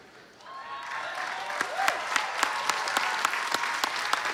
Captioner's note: applause